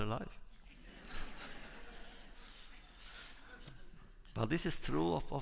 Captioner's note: laughter